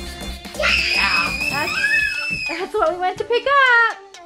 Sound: girls scream yeah too

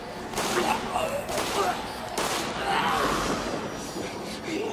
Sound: eerie squealing and snarling; gunshots booming

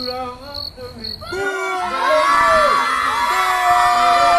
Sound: crowd boos

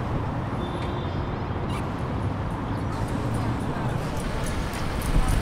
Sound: traffic noise

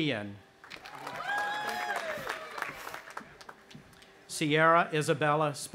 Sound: audience applauding and cheering

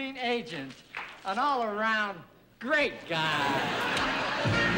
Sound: audience laughing

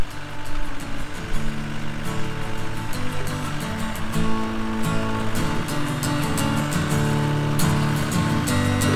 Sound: tractor engine

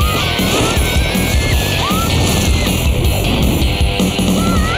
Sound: dramatic music; screaming

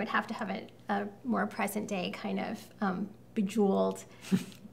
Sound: laughs

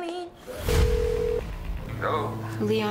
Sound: phone rings

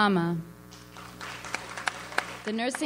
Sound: audience applauds

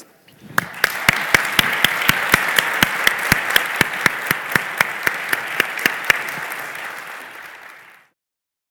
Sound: applause

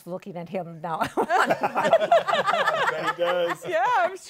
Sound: laughter

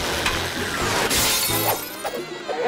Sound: shattering

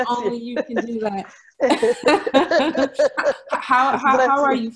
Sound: laughs

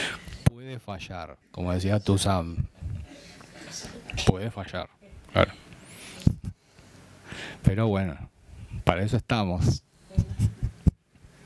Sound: hehehe

